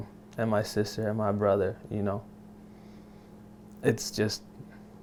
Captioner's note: none